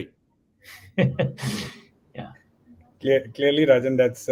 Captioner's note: chuckles